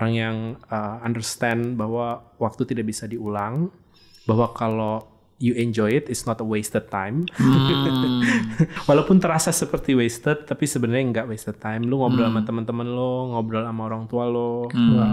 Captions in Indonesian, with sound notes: orang yang mengerti bahwa waktu tidak bisa diulang, bahwa kalau lu menikmati nya, itu bukan waktu yang terbuang, [tertawa] Walaupun rasanya seperti waktu yang terbuang, tapi sebenernya ga waktu yang terbuang, lu ngobrol sama temen-temen lu, lu ngobrol sama orang tua lu,